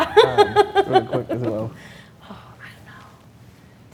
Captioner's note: laughs